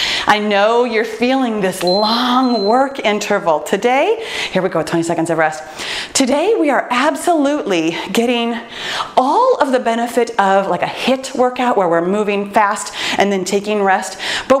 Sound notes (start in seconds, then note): 3.4 timer beeps